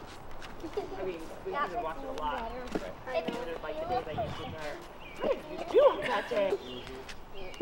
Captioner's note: adults continue chatting